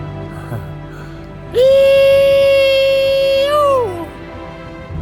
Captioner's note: screams for joy